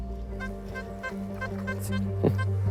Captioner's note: detector beeps